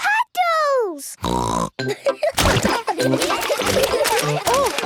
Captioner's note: snorting; laughter